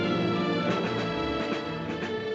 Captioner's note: none